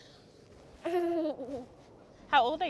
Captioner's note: giggles